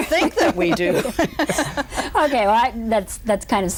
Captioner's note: all laugh